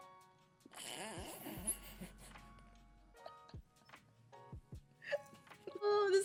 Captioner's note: giggles